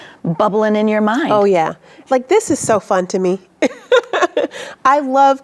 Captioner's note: laughs